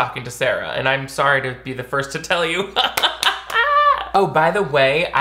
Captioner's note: laughs